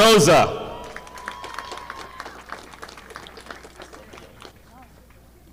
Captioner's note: audience applauding